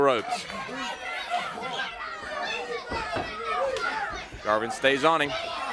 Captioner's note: crowd chatter